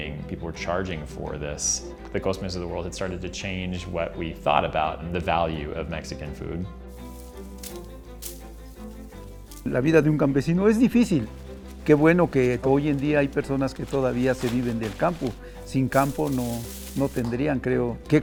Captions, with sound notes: was literally being, people were charging for this. The of the world had started to change what we thought about the value of Mexican food. (speaking in foreign language)